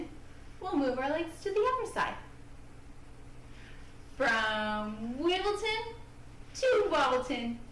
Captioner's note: speaking in rhyme